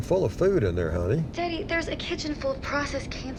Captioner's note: on phone